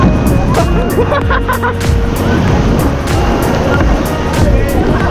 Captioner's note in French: rires